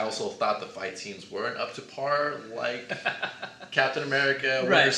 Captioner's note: laughs